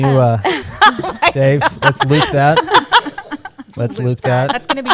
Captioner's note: laughter